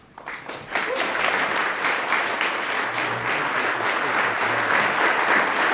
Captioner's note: attendees applauding